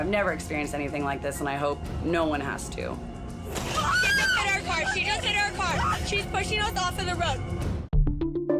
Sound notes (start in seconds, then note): 3.6 loudly screams